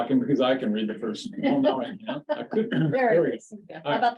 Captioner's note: laughing